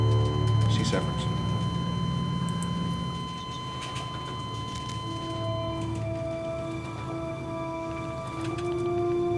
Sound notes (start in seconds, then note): 2.1 heart monitor flat lining; 6.4 sad music